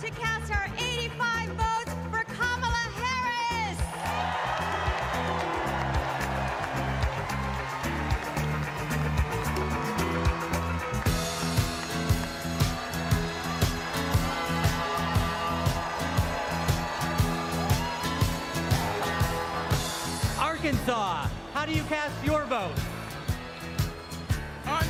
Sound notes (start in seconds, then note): 6.7 cheers and applause